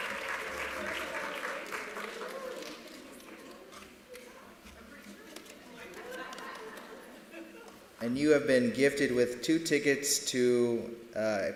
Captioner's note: applause